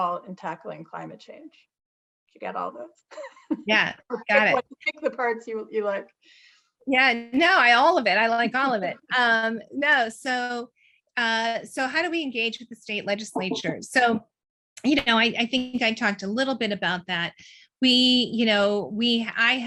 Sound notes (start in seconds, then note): 3.5 chuckles